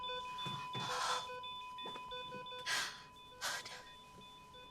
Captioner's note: Cassie exhales